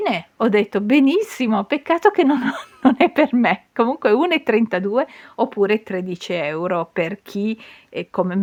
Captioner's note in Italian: risate